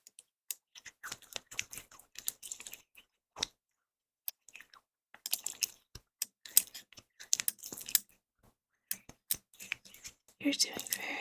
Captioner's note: surgical noises